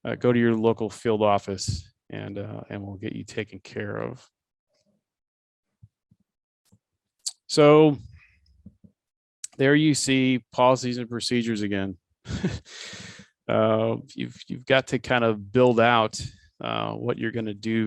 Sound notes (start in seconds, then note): 12.3 laughs